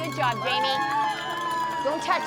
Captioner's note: crowd cheering and applauding